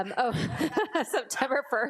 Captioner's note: board members laughing